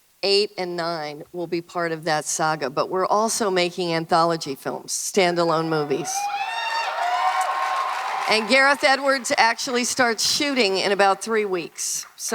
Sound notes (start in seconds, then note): 5.8 audience cheering